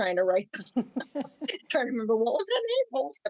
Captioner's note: group laughing